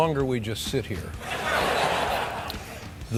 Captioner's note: laugh